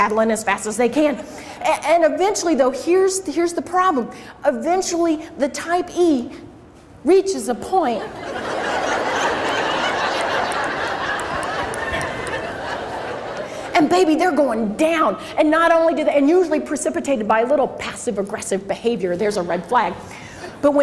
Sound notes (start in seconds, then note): 8.0 crowd laughs